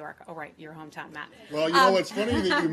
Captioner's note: laughter